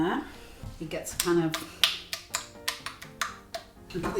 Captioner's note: rhythimc slapping sound